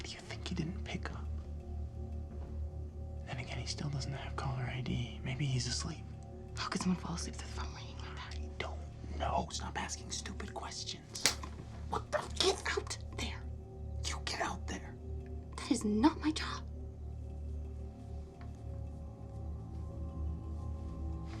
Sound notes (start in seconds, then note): 11.2 hand slaps; 17.7 soft suspenseful music